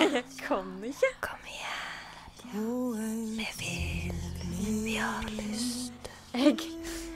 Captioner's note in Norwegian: sensuell kviskring